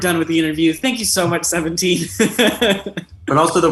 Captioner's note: laughs